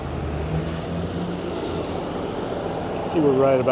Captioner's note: birds chirping